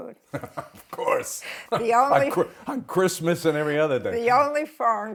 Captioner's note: laughs